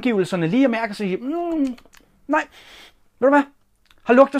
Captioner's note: sniff sniff